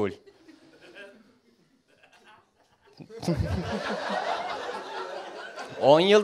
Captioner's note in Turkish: gari̇p gülen seyi̇rci̇